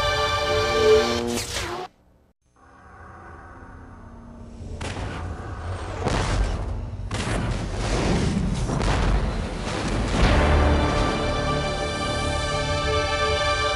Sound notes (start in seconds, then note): 1.1 mechanical sounds; 2.4 dramatic sounds; 4.5 digitized landslide sounds